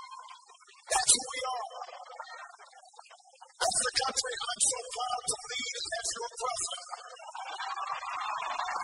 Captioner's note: cheers, applause